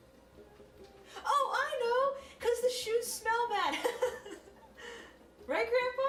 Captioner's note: laughing